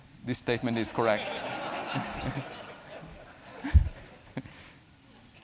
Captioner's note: laughter